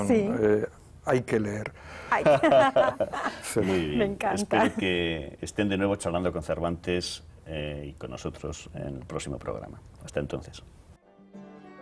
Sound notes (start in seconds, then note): 2.2 ríen